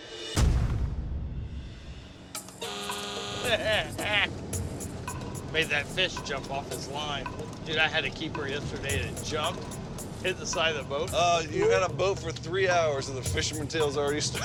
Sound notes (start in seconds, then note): 2.4 horn honks; 3.4 laughing